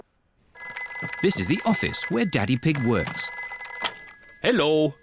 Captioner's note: phone rings